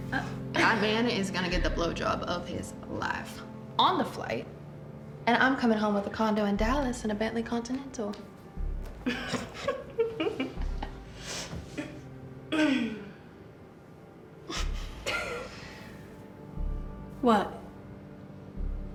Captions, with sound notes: Oh, that man is going to get the blowjob of his life on the flight. And I'm coming home with a condo in Dallas and a Bentley Continental. [BOTH GIGGLE] What?